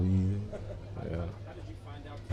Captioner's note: reporter chuckling